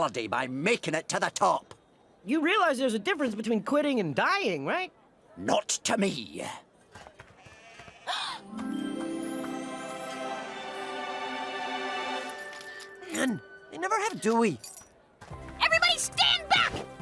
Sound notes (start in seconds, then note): 6.9 gasps; 7.4 sheep bleats; 8.4 heavenly music plays